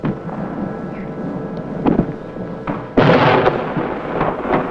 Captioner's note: bombs exploding